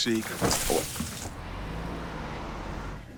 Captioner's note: tree thudding; rustling